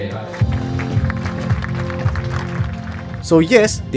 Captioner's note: applause